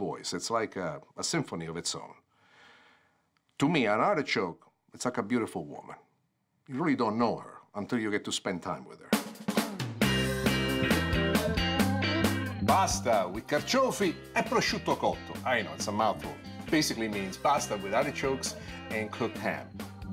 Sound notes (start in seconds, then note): 12.8 foreign language